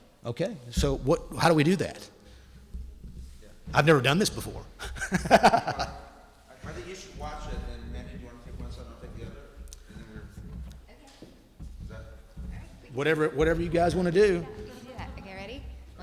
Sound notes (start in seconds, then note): 4.7 laughs